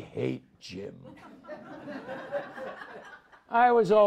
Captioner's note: audience laughs